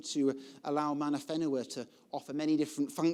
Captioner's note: speaking foreign language